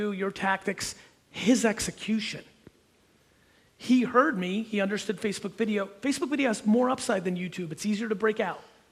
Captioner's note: none